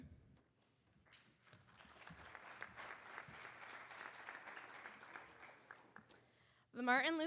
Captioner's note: applause